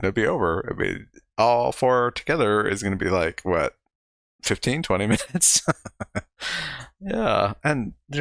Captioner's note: chuckling